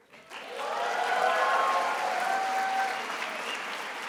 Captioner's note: attendees applauding